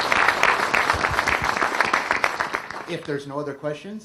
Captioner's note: applause